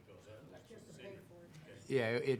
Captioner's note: all chattering